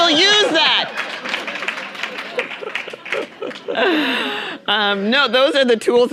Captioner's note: audience applauding